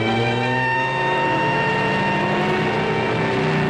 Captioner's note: engine rumbling; sirens wailing